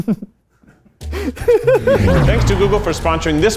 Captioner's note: giggles